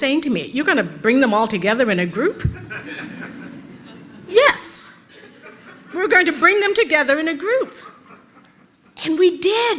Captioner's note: rires de l'auditoire